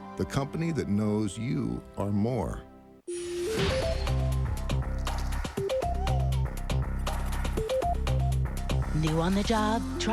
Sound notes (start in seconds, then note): none